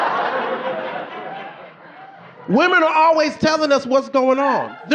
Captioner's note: audience laughing